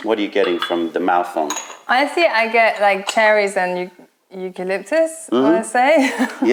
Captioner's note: laughter